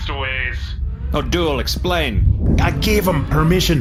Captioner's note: with a heavy accent